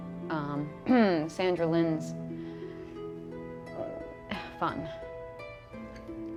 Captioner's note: clears throat